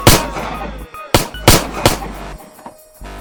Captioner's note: gun shoots